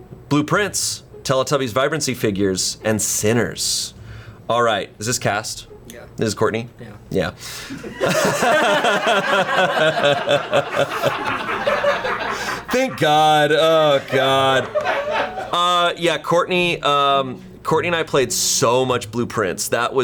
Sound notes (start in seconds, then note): 7.7 laughs; 8.6 colleagues laughing